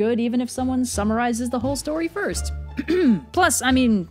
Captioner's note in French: raclement de gorge